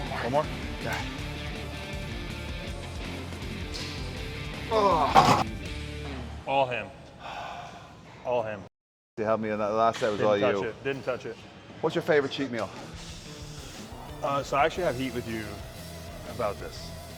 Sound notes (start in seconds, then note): 2.1 upbeat rock music continues; 5.2 weight clunks